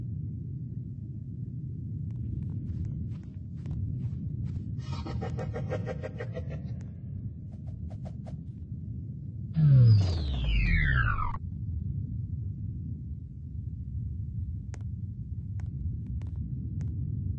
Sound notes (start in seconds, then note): 4.8 100% authentic maniac laugh